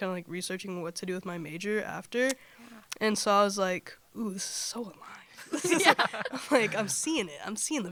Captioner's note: laughter